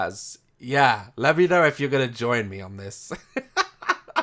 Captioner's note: excited laughter